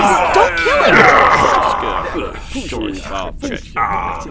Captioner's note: Klingon angry, confused muttering